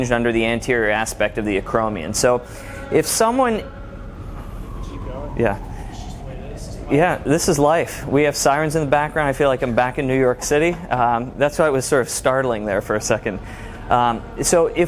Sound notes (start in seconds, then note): 3.5 ambulance siren wails